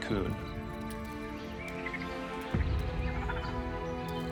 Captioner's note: chittering